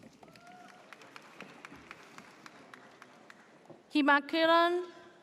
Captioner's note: audience cheers